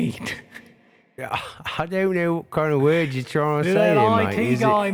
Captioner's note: laughs